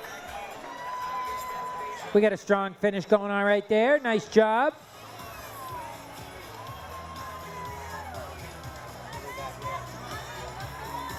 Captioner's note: cheering